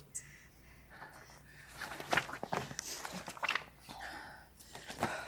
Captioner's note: Rainey breathing deeply